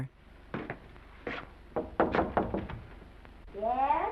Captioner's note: knocking on door